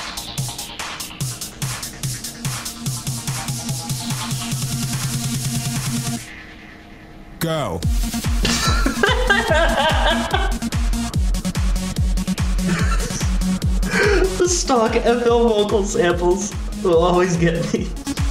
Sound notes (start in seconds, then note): 8.4 big ol nerd laughing like crazy; 13.8 gasp